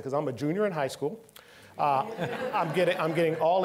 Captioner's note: all laughing